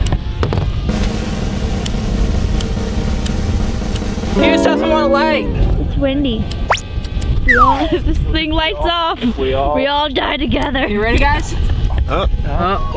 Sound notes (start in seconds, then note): 0.8 drumroll; 2.6 lighter clicking